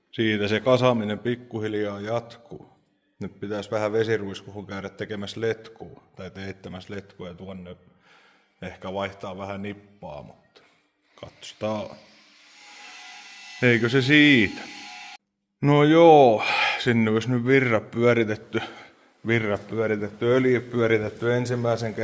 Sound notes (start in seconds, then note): 16.3 sigh